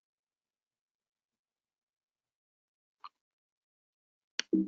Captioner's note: mouse clicking